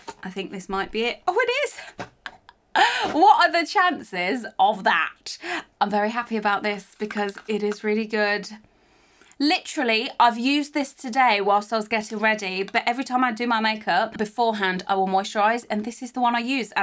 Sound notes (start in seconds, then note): 2.3 laughs